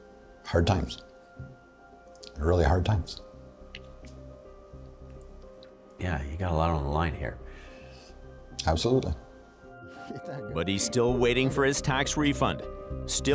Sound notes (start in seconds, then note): 1.4 voice breaking